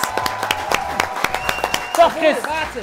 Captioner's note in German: Jubel